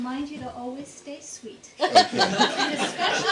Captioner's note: laughter